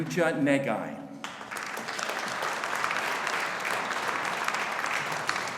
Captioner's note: audience applauding